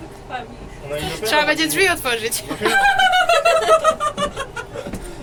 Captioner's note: panic laugh